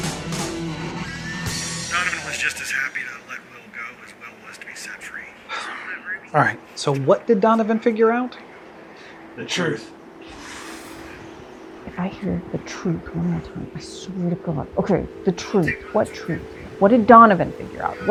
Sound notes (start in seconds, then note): 5.5 Joey sighs; 9.9 Diane hisses